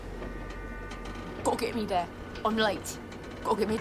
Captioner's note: imitating %*#